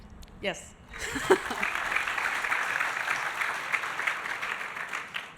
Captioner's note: audience applauding